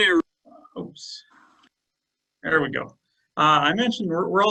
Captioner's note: male Voice